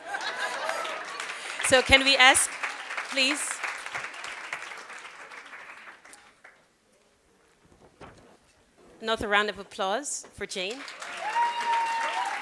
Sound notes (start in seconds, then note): 10.4 applause